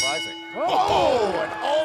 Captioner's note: bell ringing